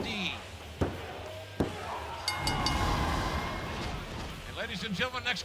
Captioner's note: bell ringing